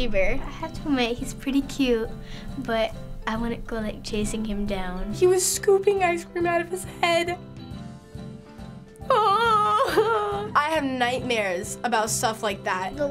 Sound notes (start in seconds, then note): 9.1 exclaiming